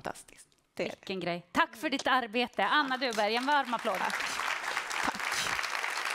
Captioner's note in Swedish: applåder